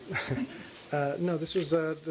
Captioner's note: laughter